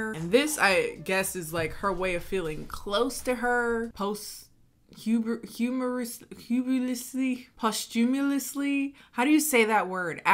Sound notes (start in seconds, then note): 5.2 mumbles